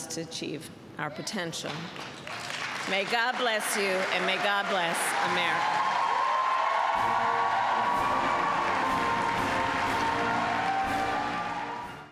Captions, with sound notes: to achieve our potential. (Applause.) May God bless you, and may God bless America. (Applause.)